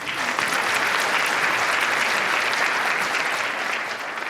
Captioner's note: applause